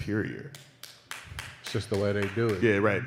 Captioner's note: applause